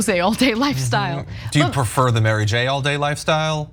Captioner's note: laugh